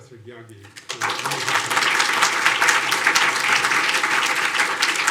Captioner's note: audience applauding